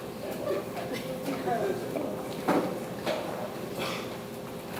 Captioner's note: audience chattering